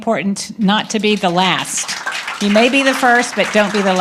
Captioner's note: applause